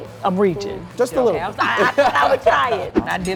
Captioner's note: laughs